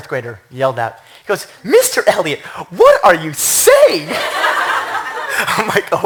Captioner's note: laughter